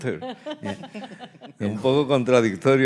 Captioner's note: laughing; speaking in Spanish